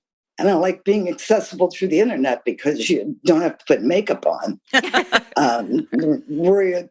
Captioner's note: laughter